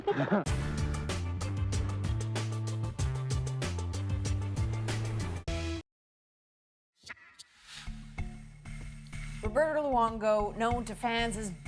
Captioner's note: laughter